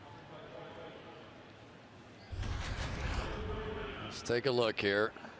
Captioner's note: pa announcement